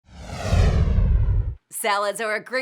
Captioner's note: whoosh